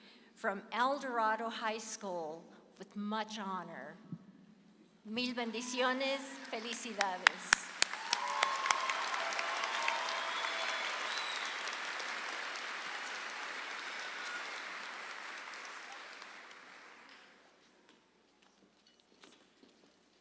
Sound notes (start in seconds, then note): 5.1 speaks in Spanish; 8.4 audience applauds